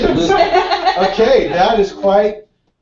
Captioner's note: laugh